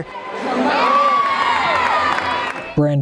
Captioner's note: cheering